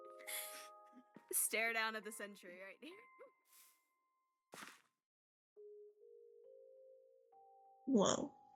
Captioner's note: laugher